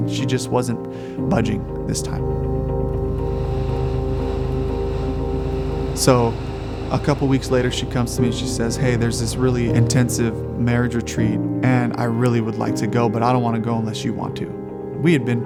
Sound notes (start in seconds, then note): 3.0 radio static